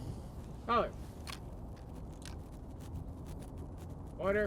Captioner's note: metal of Guns Clicking